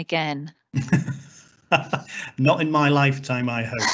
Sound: laughs

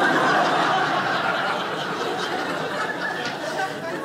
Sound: audience laughing

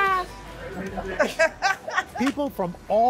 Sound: laughter

